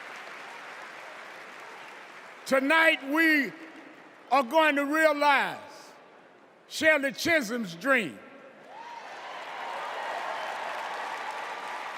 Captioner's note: cheers and applause